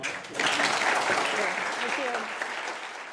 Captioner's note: applause